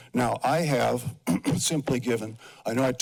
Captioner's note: clears throat